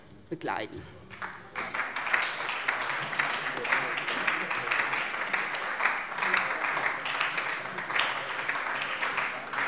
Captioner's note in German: Beifall bei der SPD und der LINKEN